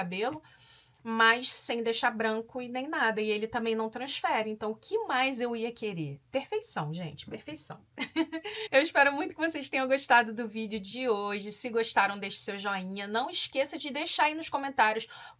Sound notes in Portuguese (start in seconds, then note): 7.9 risadas